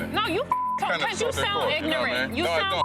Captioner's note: beep